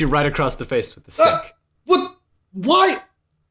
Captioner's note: noises of shock and pain